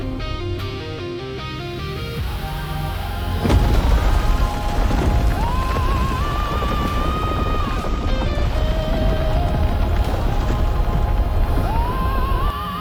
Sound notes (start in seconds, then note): 10.6 heavy impact